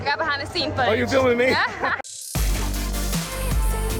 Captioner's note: laughs; upbeat music